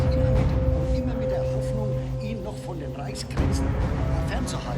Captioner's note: speaking German